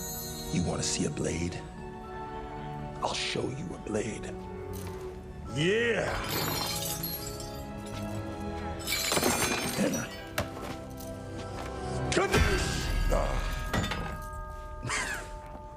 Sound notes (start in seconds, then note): 6.6 metal clanking